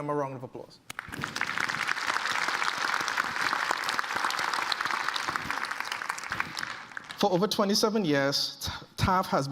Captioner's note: applause